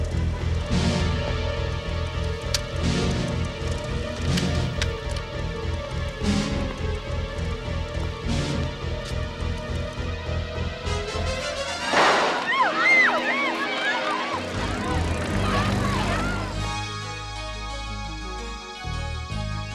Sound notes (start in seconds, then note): 0.1 ominous music; 11.6 people screaming and shouting; 16.8 lively music